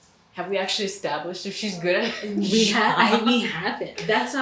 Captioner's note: laughing